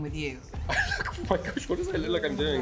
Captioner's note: laughs